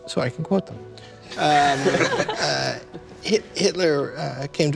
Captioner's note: laughter